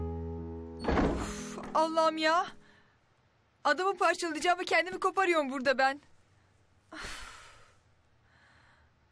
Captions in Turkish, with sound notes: [Kapı sesi] Uff Allahım ya! Adamı parçalayacağıma kendimi koparıyorum burada ben.